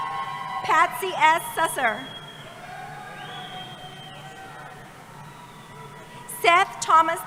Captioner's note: cheering